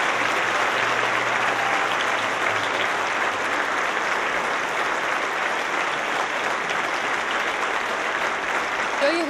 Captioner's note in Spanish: Aplausos